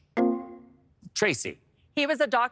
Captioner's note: electric chime